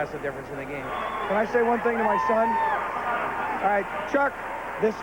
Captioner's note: spectators cheering